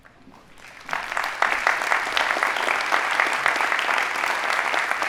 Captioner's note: audience applauding